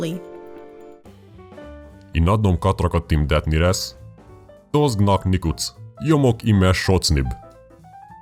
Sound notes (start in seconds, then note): 5.6 speaking reversed Hungarian sentences